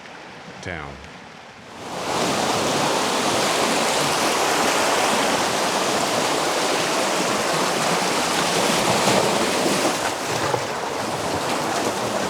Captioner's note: water rushing